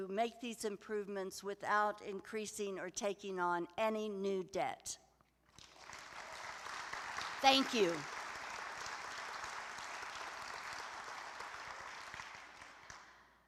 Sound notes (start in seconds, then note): 5.5 applause